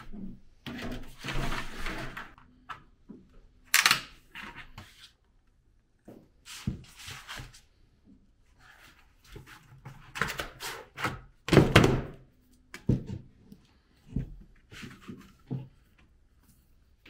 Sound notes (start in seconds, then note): 11.6 angling tool thumping